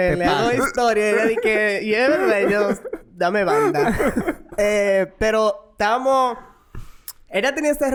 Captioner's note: laughs